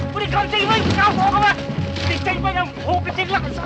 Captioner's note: speaking Chinese